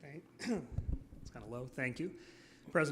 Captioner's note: coughing